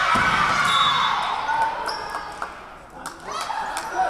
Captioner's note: whistle blowing